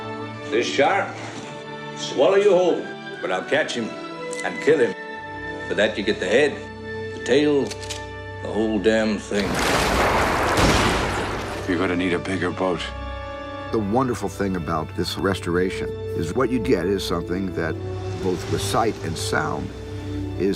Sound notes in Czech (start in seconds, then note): 7.9 cvaknutí pistole